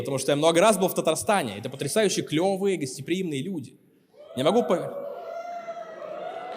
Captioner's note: cheering and applause